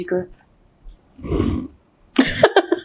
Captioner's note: chuckles